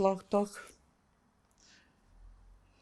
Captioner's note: pauses 10 seconds